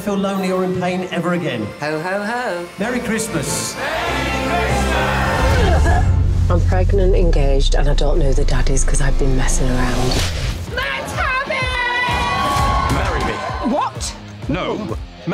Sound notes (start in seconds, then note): 10.7 cheering